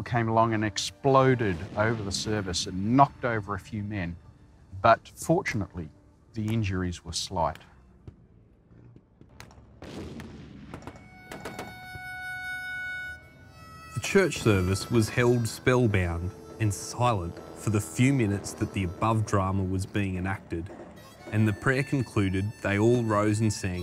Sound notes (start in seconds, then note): 11.3 cannon fire thundering; 12.4 gentle music; 12.4 gun firing